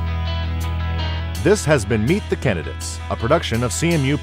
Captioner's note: voiceover